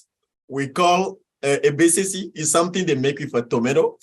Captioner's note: speaks in foreign language